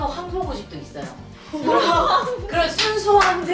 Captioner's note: hahaha